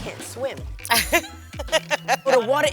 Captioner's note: laughs